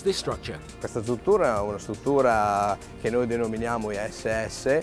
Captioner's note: speaks Italian